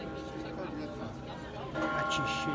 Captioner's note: bells ringing